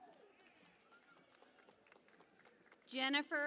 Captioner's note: cheering and Applause